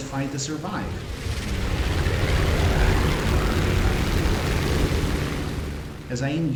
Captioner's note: aircraft Engines ,Gunfire, Flying Sounds